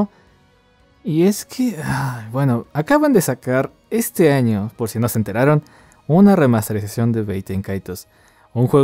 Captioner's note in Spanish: suspiro